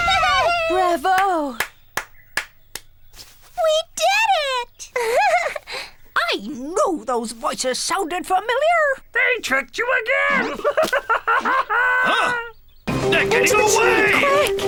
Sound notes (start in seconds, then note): 2.3 clapping; 4.7 laughing; 10.2 laughing